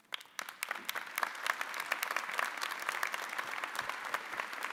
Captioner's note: audience applauding